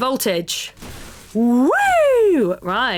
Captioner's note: whoops excitedly